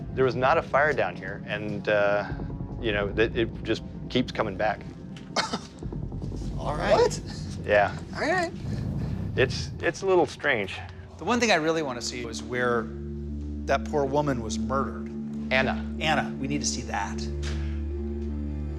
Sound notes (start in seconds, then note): 5.4 chuckles